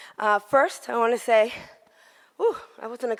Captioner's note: exhales